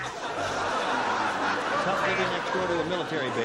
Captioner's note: laughter